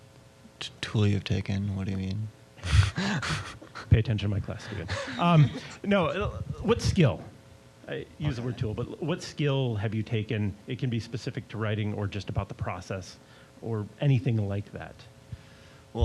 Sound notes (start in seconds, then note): 2.6 laughing; 4.4 both laughing